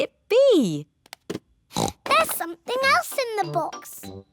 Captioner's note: oinks